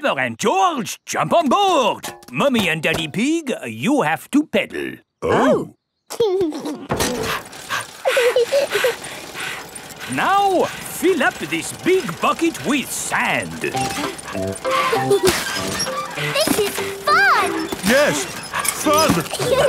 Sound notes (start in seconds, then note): 6.2 chuckles; 6.4 daddy pig panting; 8.3 mummy pig panting; 8.3 peppa chuckles; 14.6 mummy and daddy pig panting; 14.6 peppa and george laughing; 18.1 straining